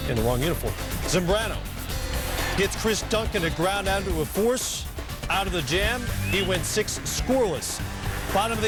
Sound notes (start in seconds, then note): 6.3 crowd cheering